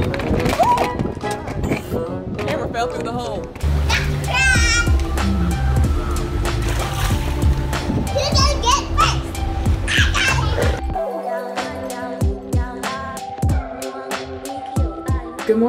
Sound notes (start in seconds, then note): 0.3 shrieks; 6.7 splashes; 11.2 reverberant, upbeat music